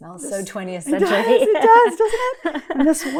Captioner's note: laughs